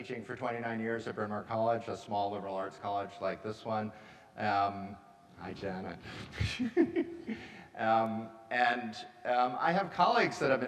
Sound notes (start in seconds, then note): 6.4 chuckles